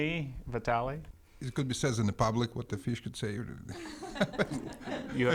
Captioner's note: laughs